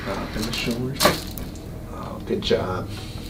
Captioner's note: cracking Noise